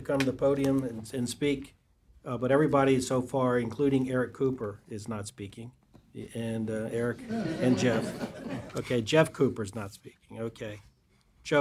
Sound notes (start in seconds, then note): 7.1 laughter